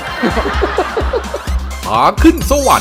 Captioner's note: laughter